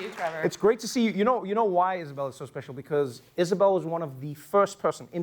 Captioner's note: cheering and Applause